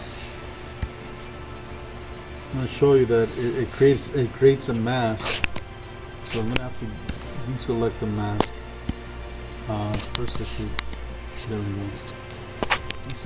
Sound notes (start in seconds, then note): 0.3 faint techno music; 10.2 speaking faintly